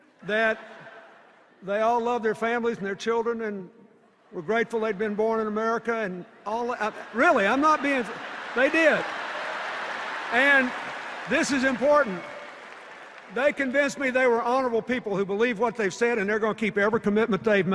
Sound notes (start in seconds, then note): 0.3 laughter; 6.8 laughter and applause